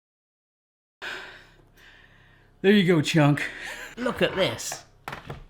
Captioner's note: breathing heavily